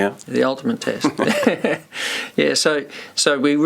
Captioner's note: laughter